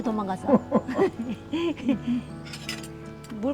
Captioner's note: both laughing